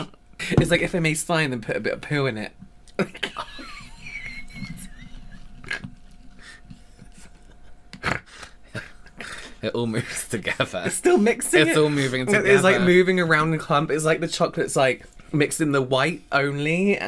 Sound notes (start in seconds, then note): 5.5 gasping Laughter; 8.0 snorting